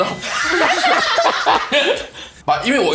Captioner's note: laughs